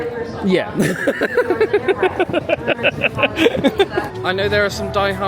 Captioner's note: laughing